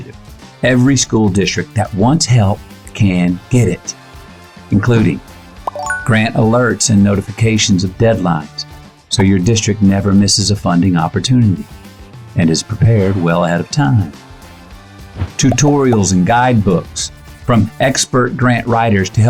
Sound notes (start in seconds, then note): 5.6 bell rings